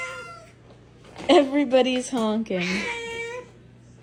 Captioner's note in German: miauen